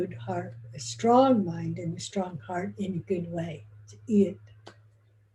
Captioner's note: foreign language